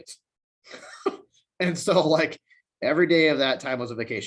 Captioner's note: chuckles